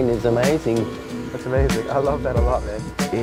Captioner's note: buzzing